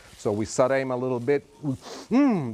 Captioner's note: sniffs